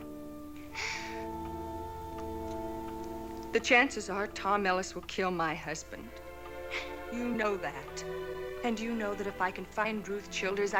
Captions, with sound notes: [sobbing] The chances are Tom Ellis will kill my husband. [sniffles] You know that. And you know that if I can find Ruth Childers